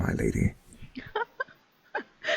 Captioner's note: laughs